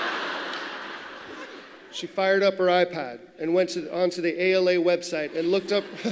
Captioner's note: laughter